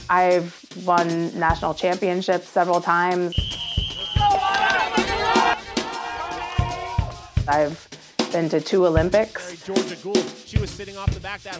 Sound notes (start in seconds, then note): 3.4 crowd cheering